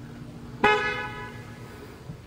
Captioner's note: car Horn